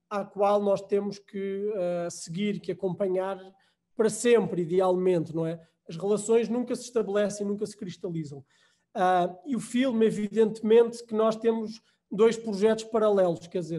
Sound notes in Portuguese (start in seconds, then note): none